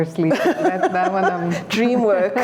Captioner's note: laughter